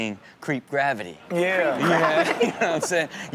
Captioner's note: chuckles